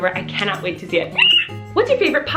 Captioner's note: screams